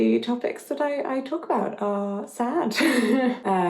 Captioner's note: laughs